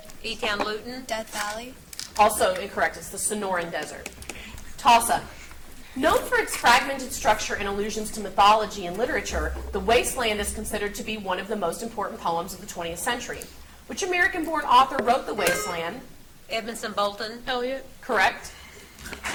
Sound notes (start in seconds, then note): 15.4 buzzer beeps